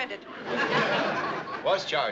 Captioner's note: audience laughs